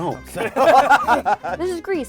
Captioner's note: laughing